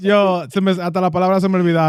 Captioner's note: speaking In Foreign Language